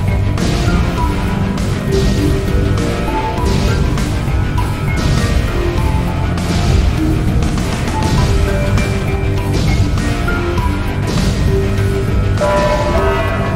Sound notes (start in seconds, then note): 0.3 laser explosion; 3.2 laser explosion; 6.2 laser explosion; 7.8 laser explosion; 11.0 laser explosion; 12.4 distorted Announcement Chime